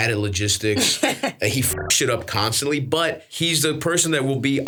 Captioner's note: beeps